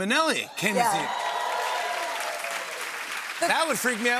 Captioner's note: cheers and applause